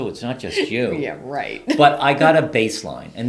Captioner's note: chuckles